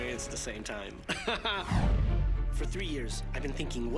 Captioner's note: laughing